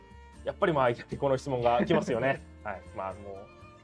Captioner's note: laughs